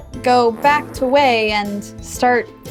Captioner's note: man farting